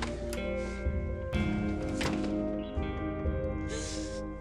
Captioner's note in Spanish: Ruido de la puerta